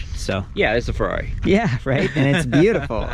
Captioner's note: laughs